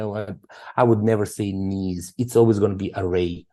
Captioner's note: speaking Serbian